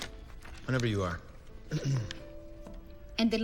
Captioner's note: Sam clears throat